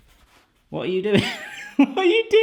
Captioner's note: laughing